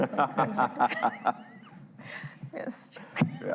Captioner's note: laughing